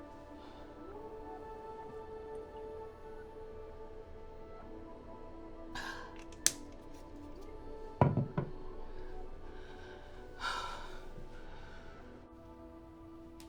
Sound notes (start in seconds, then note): 1.4 sighs; 5.7 knocking; 9.6 sighs